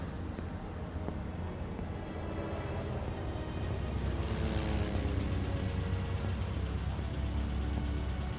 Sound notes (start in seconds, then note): 0.0 plane rumbling